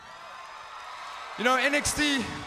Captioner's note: crowd cheering